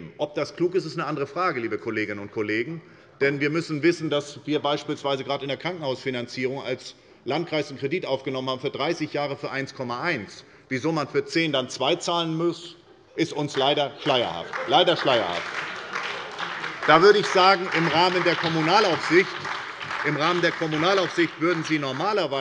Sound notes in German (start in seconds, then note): 13.9 Beifall bei der SPD